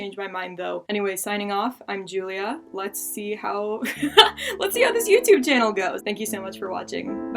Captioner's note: laughing